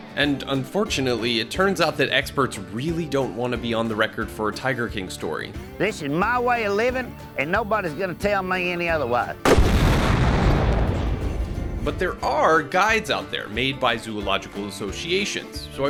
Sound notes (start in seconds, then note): 9.4 bomb explodes